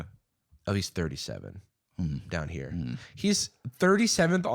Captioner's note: thoughtful grumbling